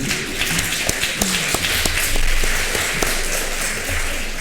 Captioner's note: applause